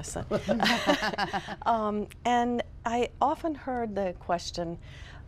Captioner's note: laughter